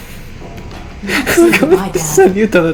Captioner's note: giggling